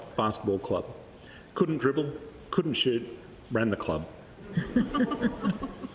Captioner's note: laughter